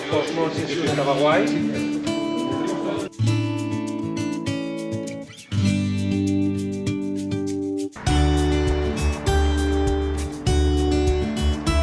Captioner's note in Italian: Applauso